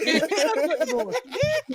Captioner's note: laughing